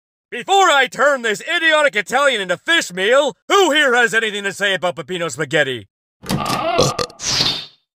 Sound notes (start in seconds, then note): 6.2 door Opens; 6.4 burps